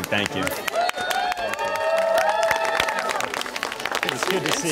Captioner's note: crowd applauding and cheering